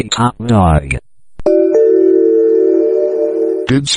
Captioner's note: "Pollux" Notification Ringtone